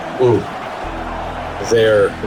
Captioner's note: crowd Noises